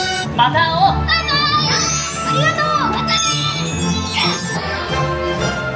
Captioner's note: characters speaking in Japanese